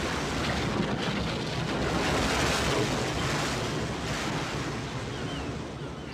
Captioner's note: waves crashing